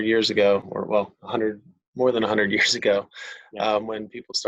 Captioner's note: chuckles